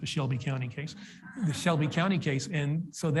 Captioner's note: audience laughs